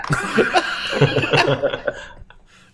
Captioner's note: laughs